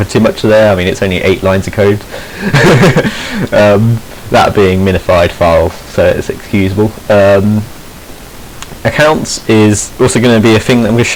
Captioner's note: he laughs